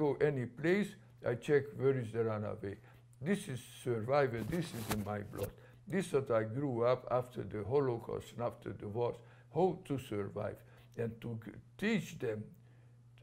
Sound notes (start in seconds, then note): none